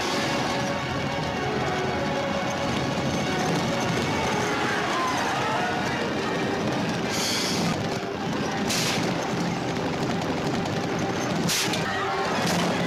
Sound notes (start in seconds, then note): 1.3 yelling